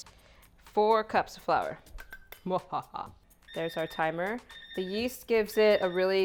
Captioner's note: laughs